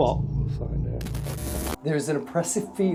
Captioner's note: static sounds